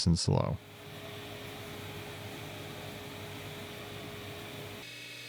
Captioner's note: machinery whirring